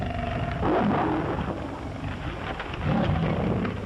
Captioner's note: tiger roaring